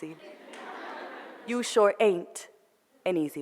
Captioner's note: foreign language; audience laughter